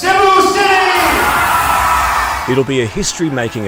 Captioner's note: audience cheers